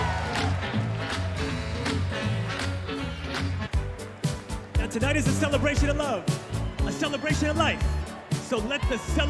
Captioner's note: cheers and applause